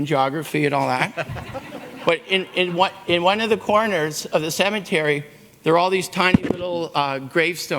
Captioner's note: laughter